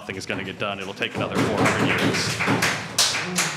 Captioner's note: applause